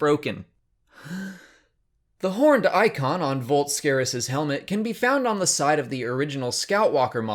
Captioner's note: big breath